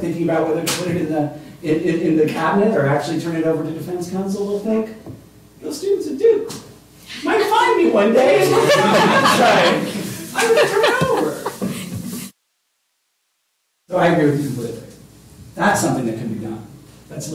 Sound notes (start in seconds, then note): 8.4 laughter